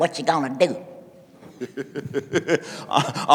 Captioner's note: laughing